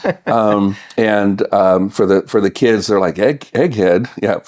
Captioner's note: laughing